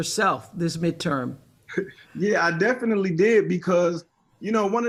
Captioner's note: laughs